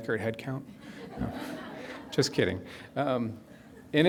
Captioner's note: audience laughs